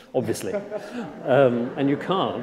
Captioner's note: laughter